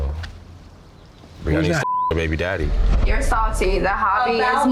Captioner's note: beep